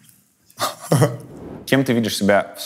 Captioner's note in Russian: смеется